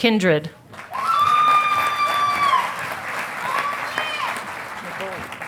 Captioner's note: audience applauding